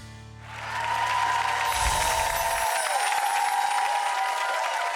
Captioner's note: crowd cheering